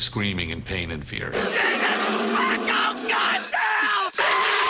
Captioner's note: screaming